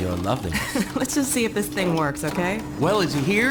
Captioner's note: laughing